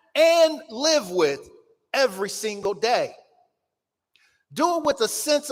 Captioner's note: none